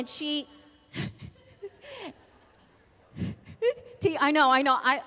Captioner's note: laughter